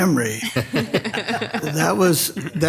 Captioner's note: all laughing